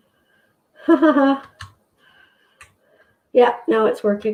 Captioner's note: laughing